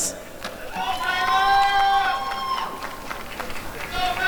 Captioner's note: applause and cheering